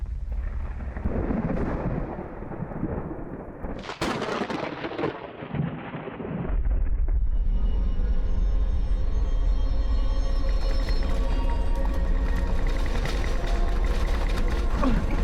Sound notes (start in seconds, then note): 0.3 thunder rumbling; 6.6 suspenseful music; 10.7 rattling and clattering